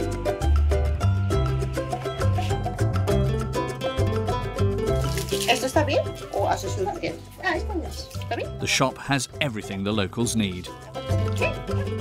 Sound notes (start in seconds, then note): 0.2 upbeat playful music; 5.7 speaking in foreign language; 6.9 customer speaking in foreign language